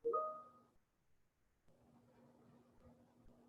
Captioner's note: beep